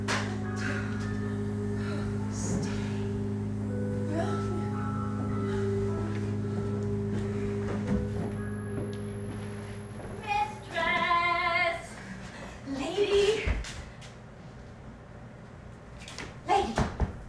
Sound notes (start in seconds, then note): 2.0 echoing whispers; 9.5 high pitched whine